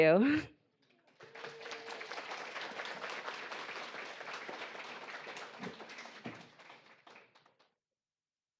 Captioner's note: audience applauding